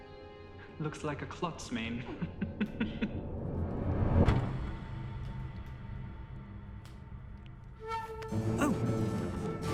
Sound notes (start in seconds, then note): 2.0 laughs